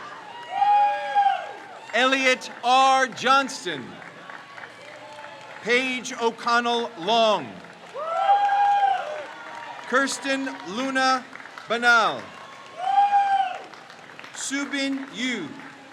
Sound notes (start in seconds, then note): 0.2 crowd cheers; 4.4 crowd cheers; 7.9 crowd cheers; 12.7 crowd cheers